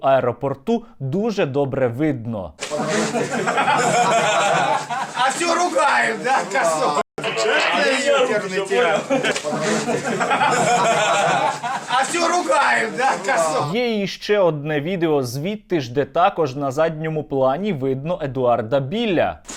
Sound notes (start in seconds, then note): 2.6 laughs